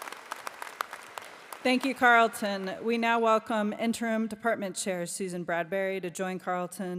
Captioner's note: applause